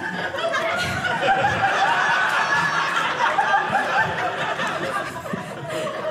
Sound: audience laughing

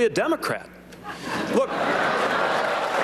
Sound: laughter

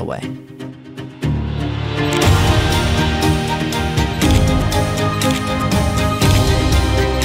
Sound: spirited uplifting music; camera clicks

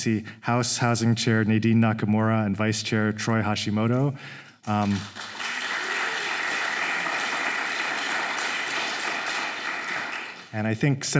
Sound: applause

